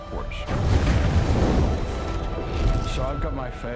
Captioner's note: thunder rumbling